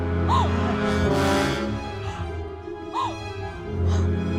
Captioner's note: Lenore gasping